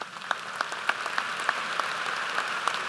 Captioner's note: applause